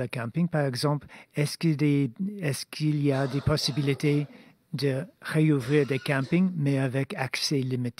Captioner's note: speaking French